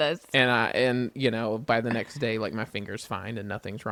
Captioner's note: laughs